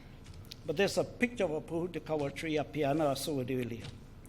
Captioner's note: foreign Language